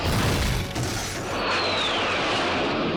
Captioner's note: bone-rattling crash; jet roars